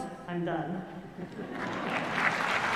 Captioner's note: laughter; applause